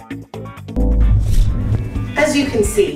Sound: Liz whooshes

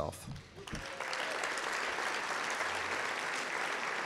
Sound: claps

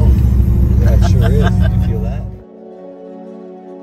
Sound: laughter

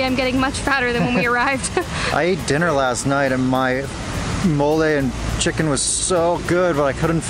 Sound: laughter

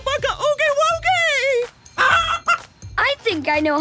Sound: clucking

